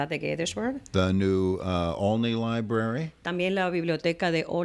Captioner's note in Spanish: Hablando ingl\s